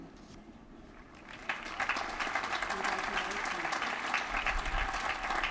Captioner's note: applause